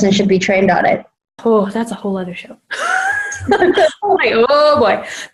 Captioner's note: laughs